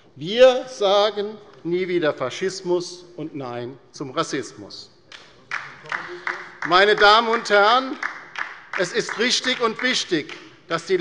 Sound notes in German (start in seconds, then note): 5.4 Beifall bei der LINKEN